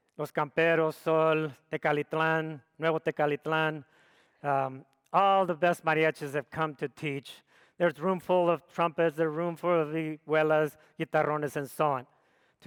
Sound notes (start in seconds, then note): none